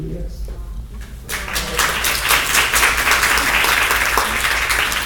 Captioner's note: applause